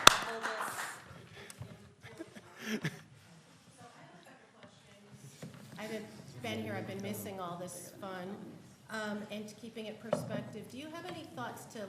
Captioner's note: applause